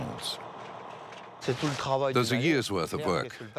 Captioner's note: speaking in foreign language